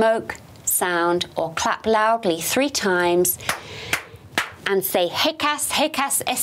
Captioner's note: claps